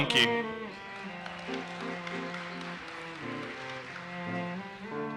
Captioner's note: audience applauses